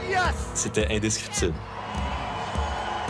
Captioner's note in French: acclamations